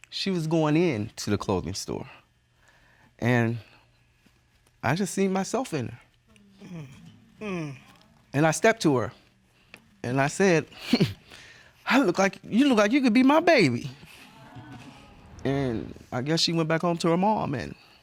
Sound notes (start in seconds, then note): 10.9 laughs; 14.0 audience coos